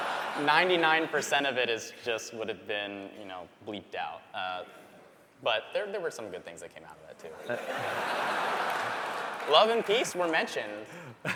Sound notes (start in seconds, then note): 0.0 laughter; 7.3 laughter